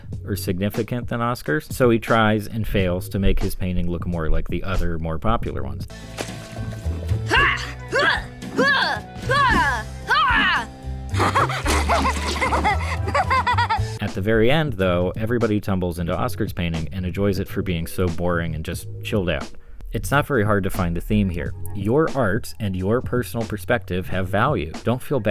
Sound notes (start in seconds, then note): 7.0 laughing; 7.3 Oscar grunting